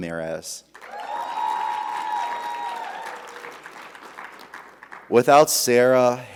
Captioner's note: audience applauding; audience cheering